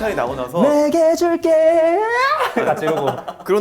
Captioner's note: repeating that voice crack